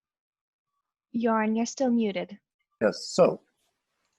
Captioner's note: technical sound